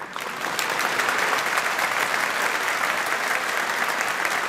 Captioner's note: audience applauding